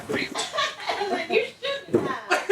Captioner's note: laughing